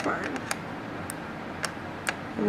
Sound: scissor-clipping sounds

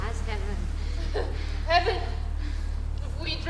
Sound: chuckling

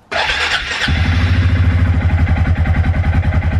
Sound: engine roaring

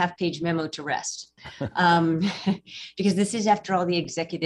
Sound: chuckles

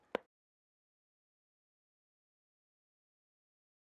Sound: silence

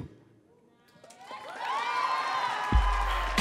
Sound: audience cheering; upbeat music

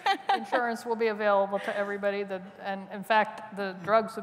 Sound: laughter

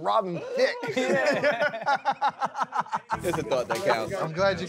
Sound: guys laugh

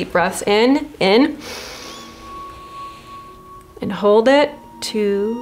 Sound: everyone inhales slowly

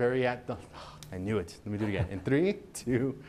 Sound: chuckling

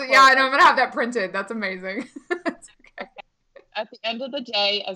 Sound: laughing

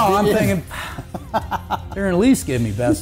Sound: laughs

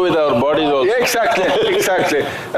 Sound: laughs

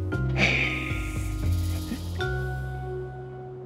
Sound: Haley sneers

